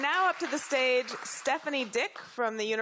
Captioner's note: applause